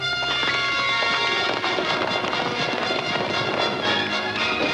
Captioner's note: horses galloping